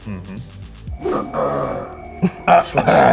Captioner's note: clears throat